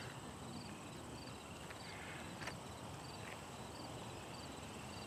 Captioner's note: insects chirping